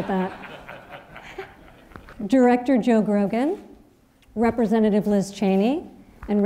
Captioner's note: laughter